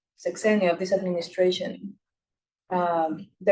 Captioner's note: speaking Spanish